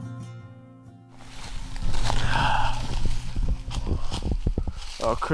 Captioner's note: leaves rustling